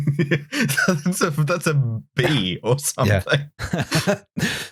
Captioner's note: laughs